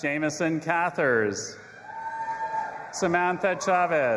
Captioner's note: audience applauding and cheering